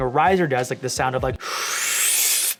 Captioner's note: slurping